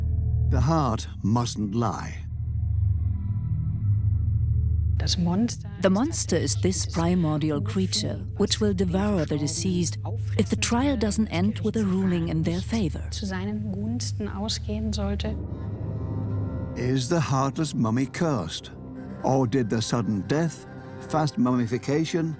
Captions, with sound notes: The heart mustn't lie. The monster is this primordial creature, which will devour the deceased if the trial doesn't end with a ruling in their favor. (speaks German) Is the heartless mummy cursed? Or did the sudden death, fast mummification